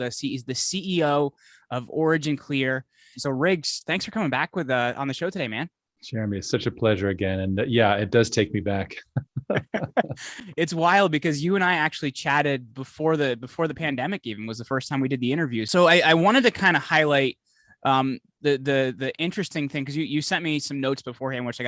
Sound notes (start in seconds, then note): 8.9 both laughing